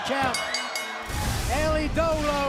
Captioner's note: bell ringing